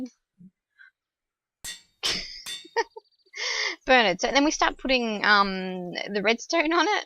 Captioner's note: laughs